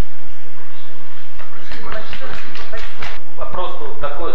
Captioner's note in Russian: аплодисменты